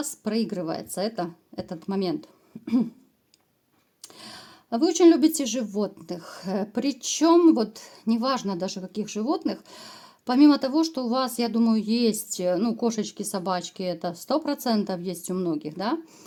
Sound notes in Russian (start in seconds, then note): 2.6 откашливается